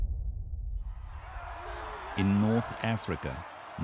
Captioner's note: clamoring